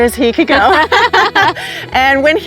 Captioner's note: both laughing